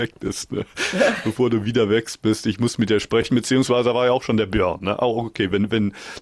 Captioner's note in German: gelächter